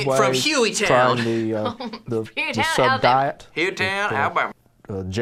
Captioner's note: laughs